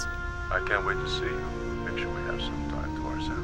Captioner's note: voice On Phone